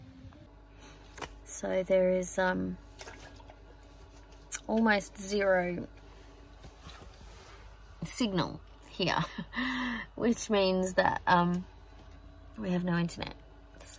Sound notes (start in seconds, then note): 6.7 chuckles wryly